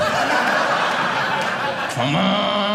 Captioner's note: audience laughing